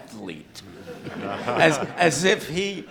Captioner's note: laughter